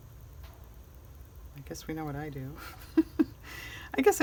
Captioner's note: laughs